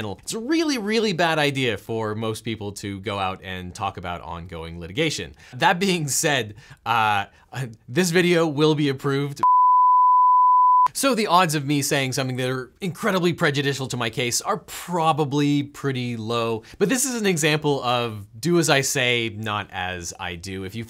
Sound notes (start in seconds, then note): 9.4 beep